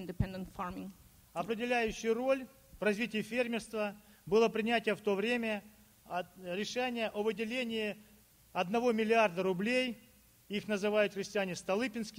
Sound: speaking Russian

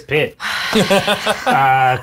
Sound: laughing

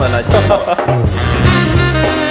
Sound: laughing

